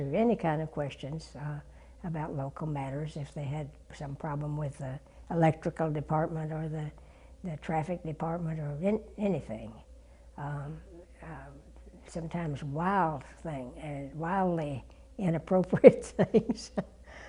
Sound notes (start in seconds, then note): 16.1 laugh